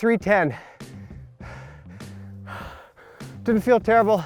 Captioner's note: breathing heavily